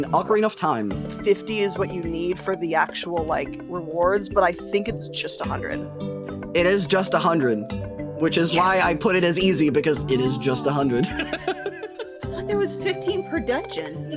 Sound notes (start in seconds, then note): 10.9 laughing